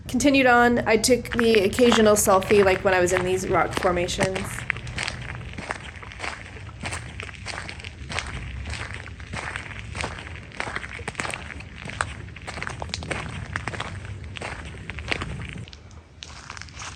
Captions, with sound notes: Continued on. I took the occasional selfie, like, when I was in these rock formations. [wind howling]